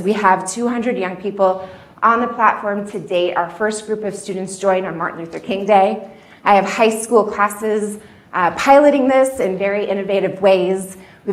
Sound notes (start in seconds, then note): none